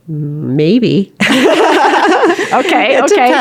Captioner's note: laughter